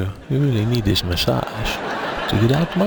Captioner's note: audience laughing